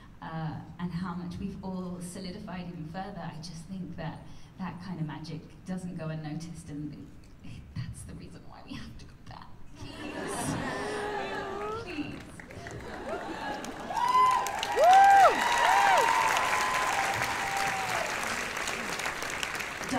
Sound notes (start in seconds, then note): 9.8 laughter; 13.9 cheers and applause